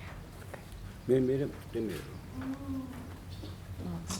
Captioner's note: speaking in foreign language